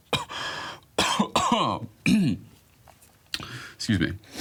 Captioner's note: coughing; clears throat; sniffs